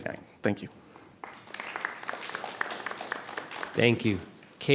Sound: applause

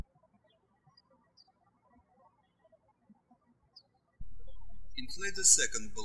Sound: birds chirping

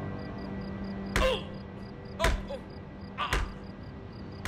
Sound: fist thudding

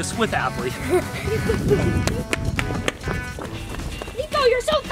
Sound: upbeat music; air whooshing

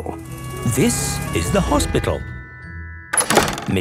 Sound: siren sounding

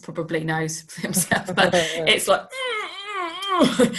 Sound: groans

